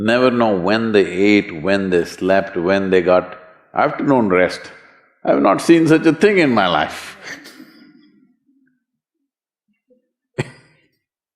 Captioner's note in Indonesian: Tertawa